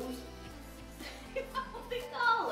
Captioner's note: laughs